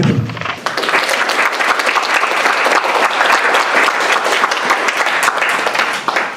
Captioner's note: applause